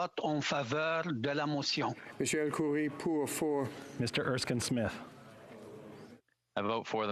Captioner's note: speaking French